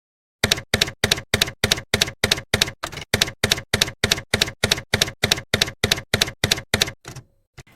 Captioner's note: typewriter keys clacking